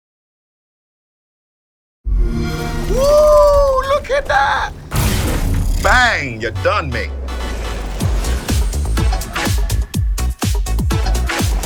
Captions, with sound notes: [XBOX SOUND] - Woo, look at that! (explosion) Bang, you're done, mate! (upbeat electronic music)